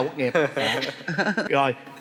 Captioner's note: laughing